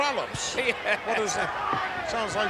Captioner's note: chuckles